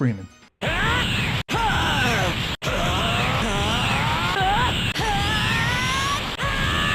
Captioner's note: lots of screaming